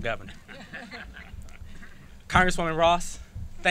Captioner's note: laughs